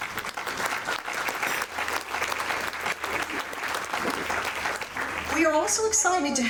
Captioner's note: audience applauding